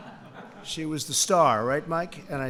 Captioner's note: laughter